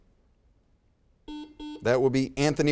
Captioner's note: buzzer beeps